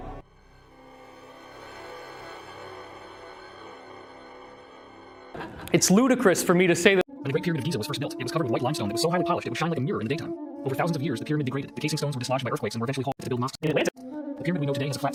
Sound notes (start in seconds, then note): 0.0 disturbing synthesizer; 7.1 hyper-Accellerated Pyramid Babble